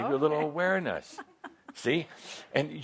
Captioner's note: she chuckles